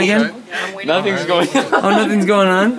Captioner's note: laughing